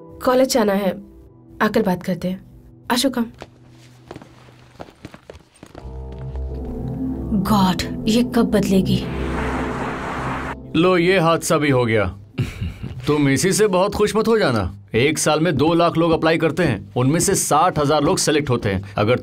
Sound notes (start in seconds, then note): 3.3 footsteps; 9.0 commotion